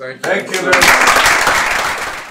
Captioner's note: applause